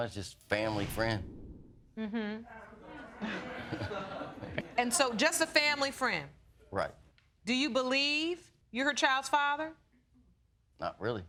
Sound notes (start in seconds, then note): 2.8 audience laughing